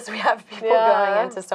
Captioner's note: laughing